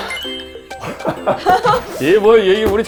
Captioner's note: failing to hold back laughter